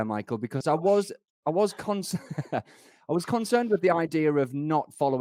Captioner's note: chuckles